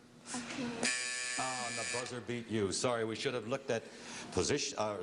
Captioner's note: buzzer